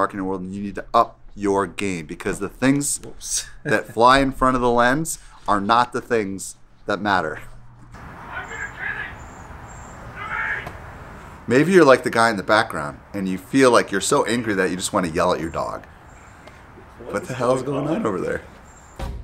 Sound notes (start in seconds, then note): 7.7 man shouts angrily in the background